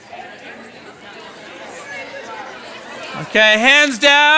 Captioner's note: participants conversing